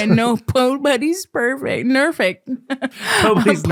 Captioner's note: laughing